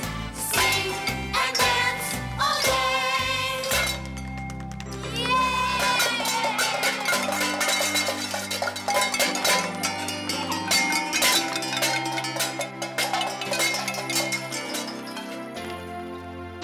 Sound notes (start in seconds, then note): 5.7 pots and pans banging; 11.5 cheerful music